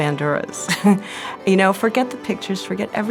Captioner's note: laughs